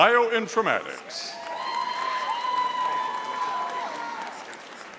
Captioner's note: audience applauding